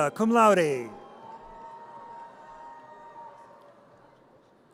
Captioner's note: audience cheers